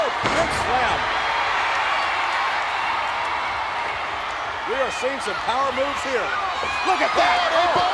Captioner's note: applause